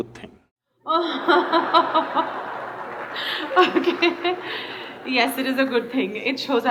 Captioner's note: laughs; laughter